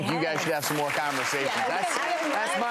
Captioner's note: crowd applause